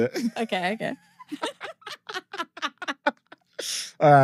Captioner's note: laughing